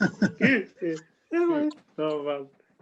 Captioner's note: laughter